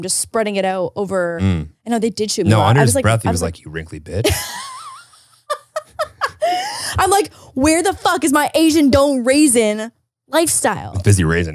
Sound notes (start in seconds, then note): 4.2 laughing